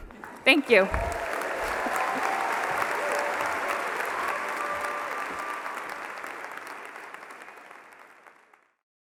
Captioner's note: applause